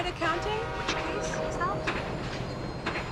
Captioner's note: train whistle blows; machinery clacking